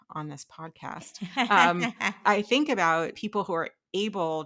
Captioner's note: laughing